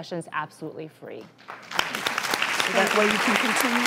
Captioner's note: applause